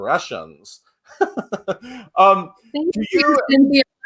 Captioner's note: laughs